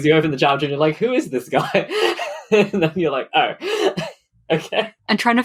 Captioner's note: laughing